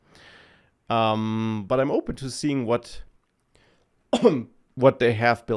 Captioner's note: coughs